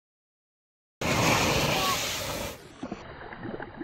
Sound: water rustling

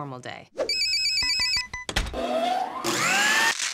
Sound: phone ringing; machine whirring

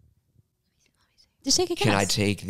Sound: whispers

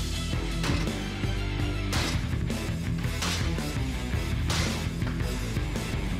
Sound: blade chopping

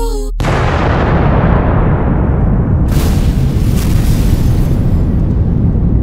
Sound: explosion

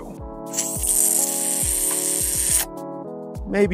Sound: sucking the air in disagreement

